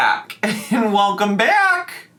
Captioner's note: laughs